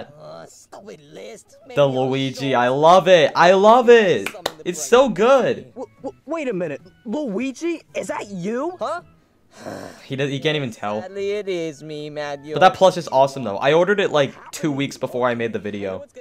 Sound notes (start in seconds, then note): 4.2 claps; 9.5 sighs